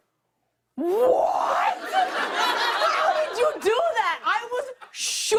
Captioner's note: laughter